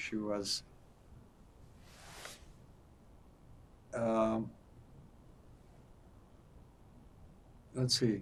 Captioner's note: pauses 6 seconds